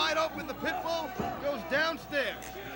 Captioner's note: crowd chatter